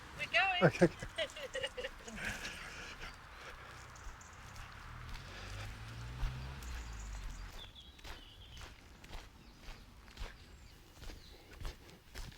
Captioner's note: bird chirping; birds chirping; laughter